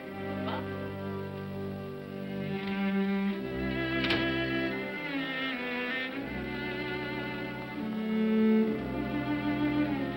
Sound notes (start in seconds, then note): 1.8 sentimental music; 3.7 door closes; 5.2 sentimental music